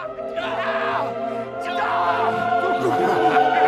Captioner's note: yelling